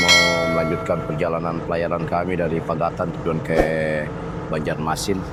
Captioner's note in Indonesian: lonceng